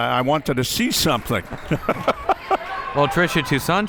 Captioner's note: laughing